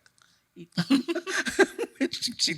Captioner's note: chuckling